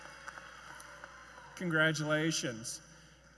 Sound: applause

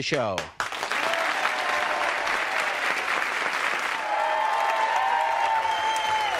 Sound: audience cheering and applauding

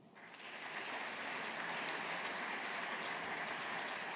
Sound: audience applauding

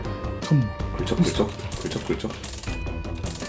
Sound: starts scratching

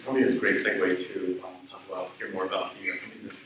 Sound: speaks away from mic

